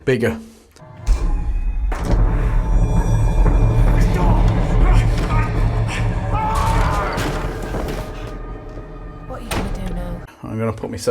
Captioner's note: sound FX